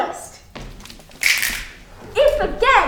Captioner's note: all snapping